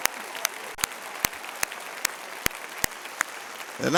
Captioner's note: applause